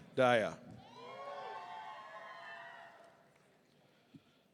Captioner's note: audience cheering